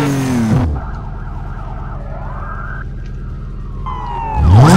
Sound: police sirens approaching

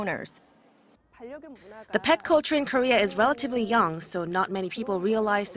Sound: Korean

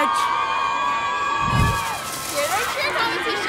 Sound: cheering

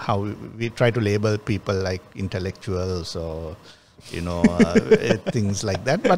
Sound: laughs

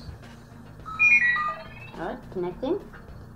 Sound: computer trilling

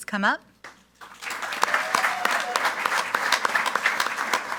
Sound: group applauding

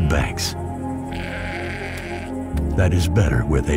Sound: Schaf blökt

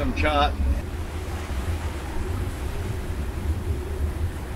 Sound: wind blows

